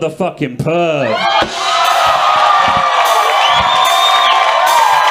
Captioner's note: audience cheering